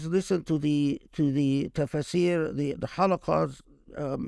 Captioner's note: speaking Arabic